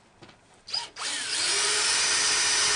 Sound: drill sounds

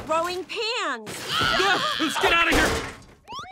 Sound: screaming

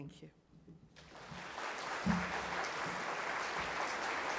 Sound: applause

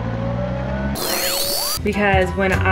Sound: buzzing

